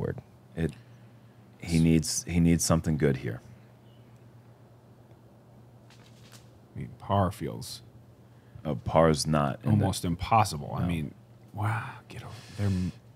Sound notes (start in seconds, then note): none